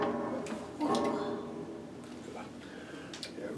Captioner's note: groans